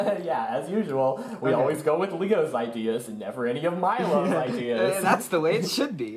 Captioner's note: laughs